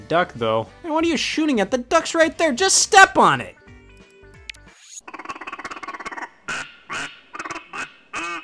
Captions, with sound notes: And what are you shooting at? The duck's right there, just step on it. (duck quacking)